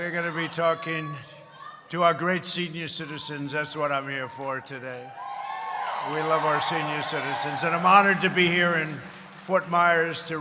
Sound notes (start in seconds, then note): 5.6 applause